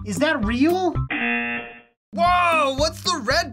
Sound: buzzer rings

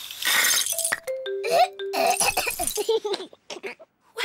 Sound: splutters; giggles

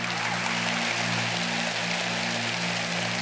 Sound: applause

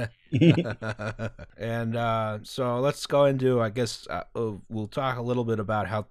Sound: laughter

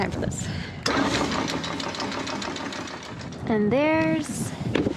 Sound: motor running

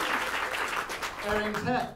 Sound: applause

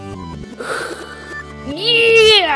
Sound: sigh

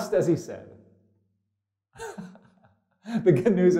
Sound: pastor: Laughter

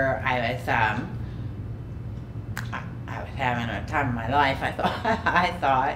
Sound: laughing

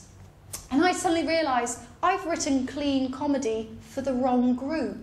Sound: none

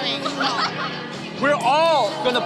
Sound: laughter

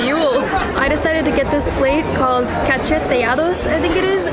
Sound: speaking in Spanish

